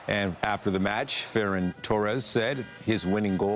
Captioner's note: applause